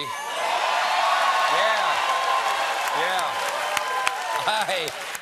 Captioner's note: cheers and applause